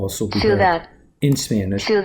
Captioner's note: computer Voice